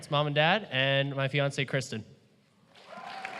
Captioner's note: applause